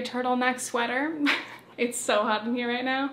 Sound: chuckles

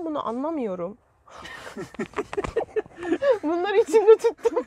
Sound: laughings

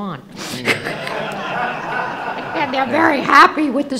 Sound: laughing

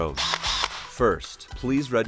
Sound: drill whirring

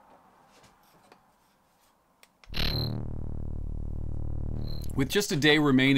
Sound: futuristic laser sound

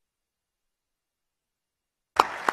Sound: applause

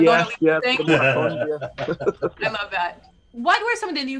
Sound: laughing

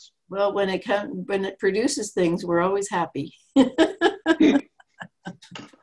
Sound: laughs

